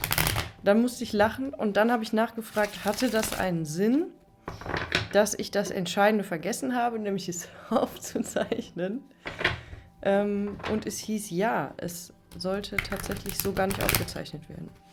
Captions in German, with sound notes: dann musste ich lachen und dann habe ich nachgefragt, hatte das einen Sinn, dass ich das entscheidende vergessen habe, nämlich es aufzuzeichnen. [gelächter] M hieß ja, es sollte tatsächlich so gar nicht aufgezeichnet werden.